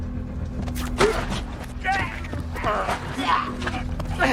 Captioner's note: Robert grunting